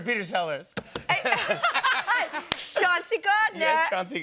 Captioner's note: laughter